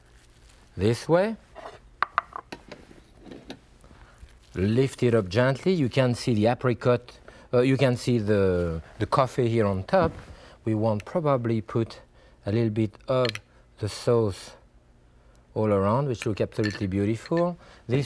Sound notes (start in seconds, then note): 1.7 plate clatters; 1.7 ramekin scrapes